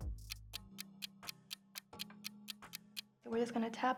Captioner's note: clock ticks